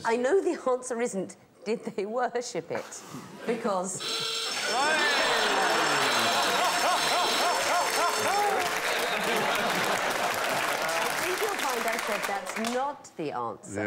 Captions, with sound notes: I know the answer isn't "Did they worship it?" Because... [klaxons, bells] [laughter, applause] I think you'll find I said that's NOT the answer.